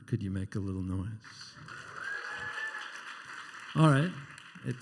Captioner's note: quieter cheering and applause